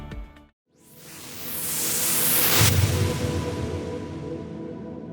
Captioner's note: whooshing